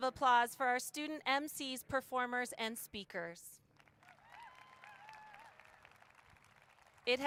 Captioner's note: applause